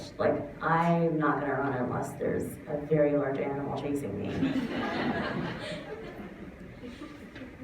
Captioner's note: laughter